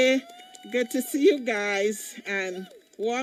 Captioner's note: cheering